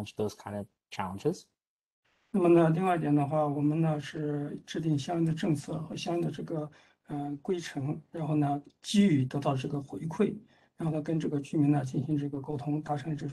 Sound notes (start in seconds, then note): 5.5 speaks in Mandarin